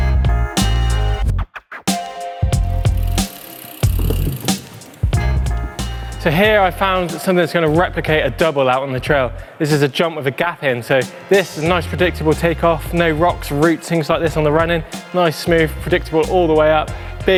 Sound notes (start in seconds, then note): 2.8 bike clicks